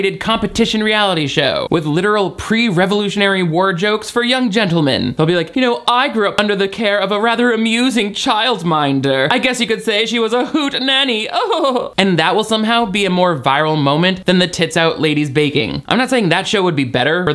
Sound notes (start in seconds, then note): 11.3 chuckling